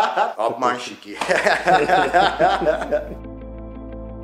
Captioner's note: laughing